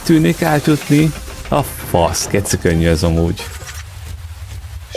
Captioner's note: hungarian cursing